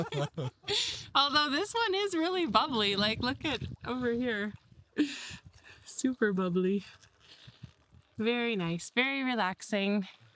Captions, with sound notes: (laughs) Although this one is really bubbly. Like, look at over here. Super bubbly. Very nice, very relaxing.